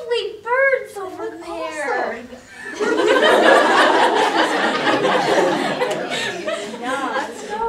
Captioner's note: audience laughter